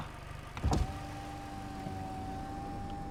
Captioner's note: car window closes